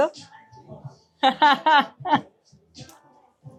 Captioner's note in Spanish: laughs